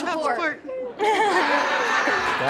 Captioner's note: all laughing